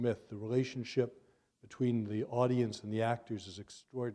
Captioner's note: none